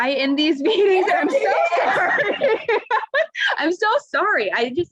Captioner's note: laughs